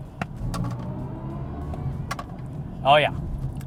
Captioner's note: engine revving